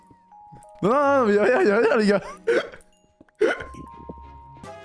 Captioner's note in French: Rires